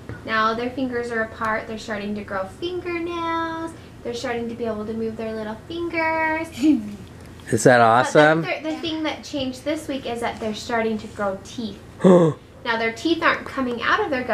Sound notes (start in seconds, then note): 6.6 laughs; 12.0 gasps